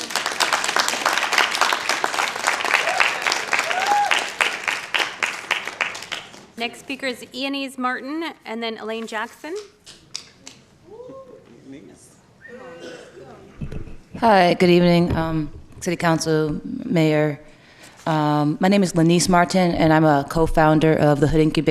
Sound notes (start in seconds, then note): 13.0 applause